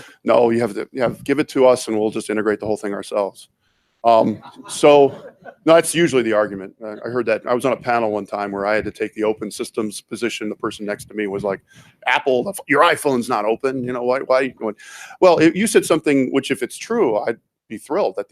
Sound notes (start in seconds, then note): 4.2 audience laughs